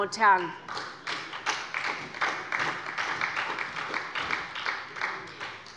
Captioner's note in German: Beifall bei Abgeordneten der SPD